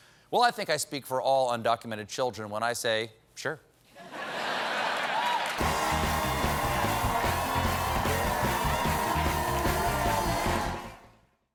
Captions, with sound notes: WELL, I THINK I SPEAK FOR ALL UNDOCUMENTED CHILDREN WHEN I SAY, "SURE." ( LAUGHTER ) ( APPLAUSE )